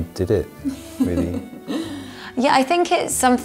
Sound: giggles

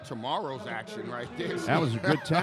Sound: laughs

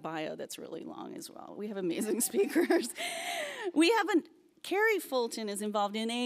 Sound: laughs

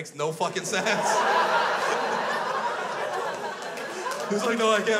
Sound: crowd laughs

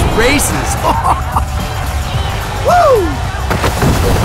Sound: laughter

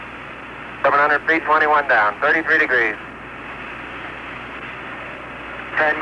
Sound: astronaut transmission continues

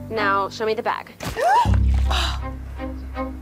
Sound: gasping

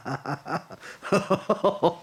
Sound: inhaling

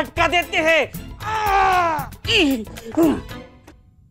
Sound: yelling

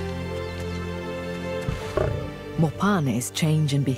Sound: buffalo grunts

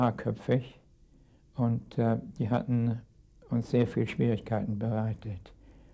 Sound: speaking in a foreign language

